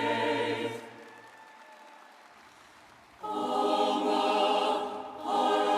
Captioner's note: audience applauds